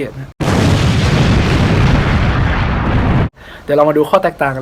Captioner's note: boooooooooooooooooooom